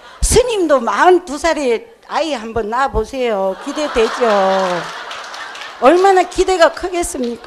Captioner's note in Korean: 청중웃음